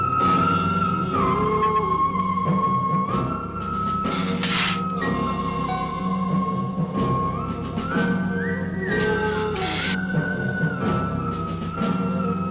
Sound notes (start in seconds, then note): 4.1 lizard hissing; 9.5 lizard hissing